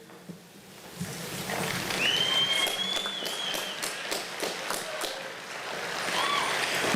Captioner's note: applause